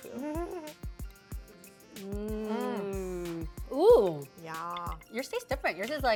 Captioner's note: giggles; approving noises